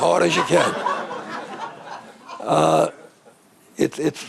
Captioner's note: audience laughing